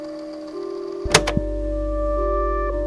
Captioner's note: click